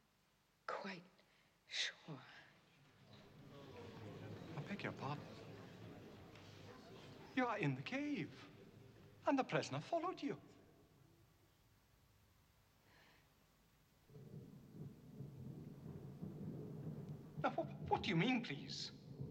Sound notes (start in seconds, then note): 14.1 thunder rumbles